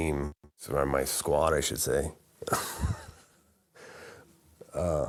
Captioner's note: laughing